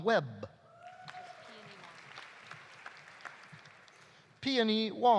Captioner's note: audience cheering; audience applauding